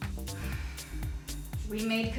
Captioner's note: exhales